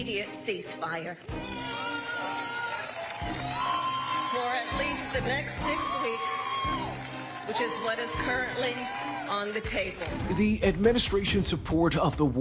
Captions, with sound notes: there must be an immediate ceasefire. [cheering] For at least the next six weeks, which is what is currently on the table.